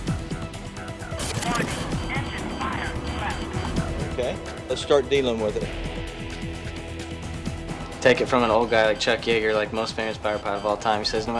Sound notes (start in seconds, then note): 0.1 upbeat music; 1.6 automated Voice